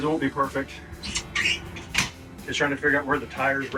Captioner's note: device squeaking